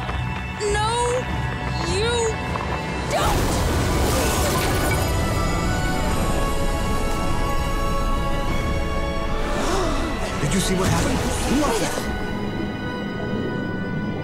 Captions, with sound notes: No... you... don't! [gasping] Did you see what happened?